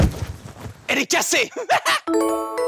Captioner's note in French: rires